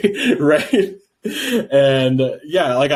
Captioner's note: laughing